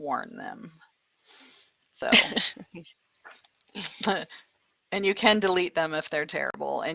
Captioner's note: laughter